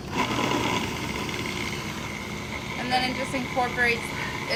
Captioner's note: processor whirring